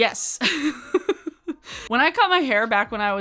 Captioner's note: laughs